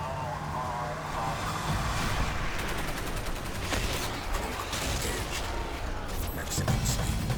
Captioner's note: gunfire; gunfire